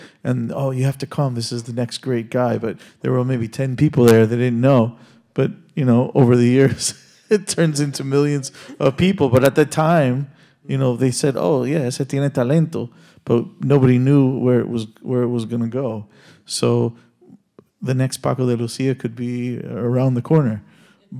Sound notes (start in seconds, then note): 6.9 laughs; 12.0 speaking Spanish